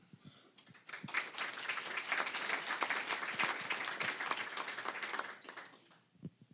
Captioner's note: applause